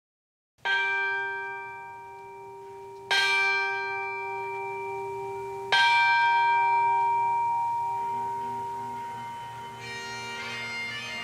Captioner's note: bell rings 3 times; bagpipe music